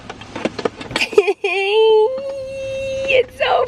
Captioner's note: chuckling